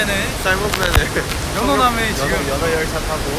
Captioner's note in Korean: ㅋㅋ